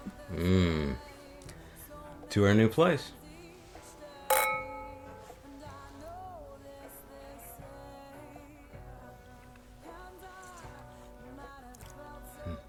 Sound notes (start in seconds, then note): 4.2 clinking glasses